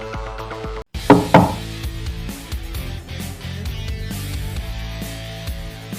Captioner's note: knock! Knock!